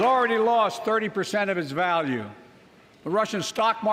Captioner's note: applause